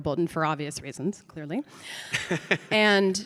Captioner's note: Mike laughs